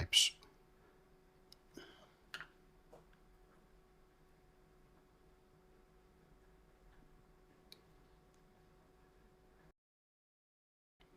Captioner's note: silence